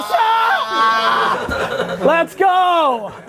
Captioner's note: exclaims, laughs